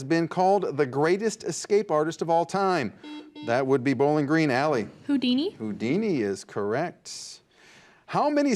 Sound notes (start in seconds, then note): 3.0 buzzer beeps